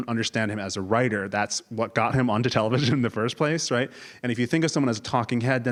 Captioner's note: laugh